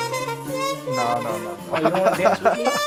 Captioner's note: laughs